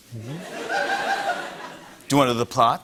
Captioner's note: laughter